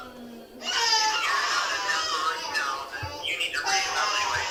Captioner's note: baby crying